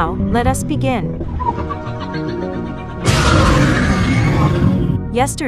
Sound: demoroars

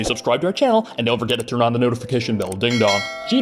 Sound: ding-dong

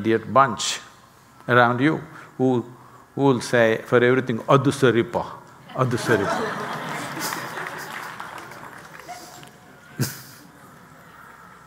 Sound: laughter/Applause

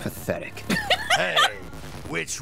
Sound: laughter

